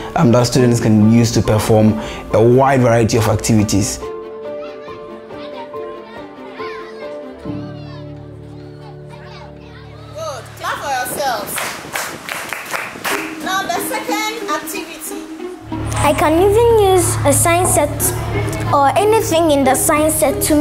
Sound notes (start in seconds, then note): 4.1 children chattering; 11.4 clapping